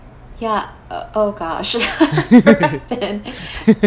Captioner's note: both laughs